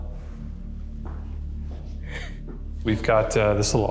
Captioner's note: footsteps thudding